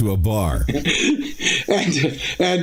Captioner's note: laughing